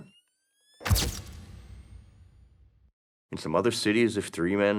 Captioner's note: camera flashing